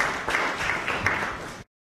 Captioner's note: applause